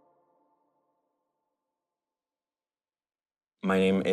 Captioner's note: silence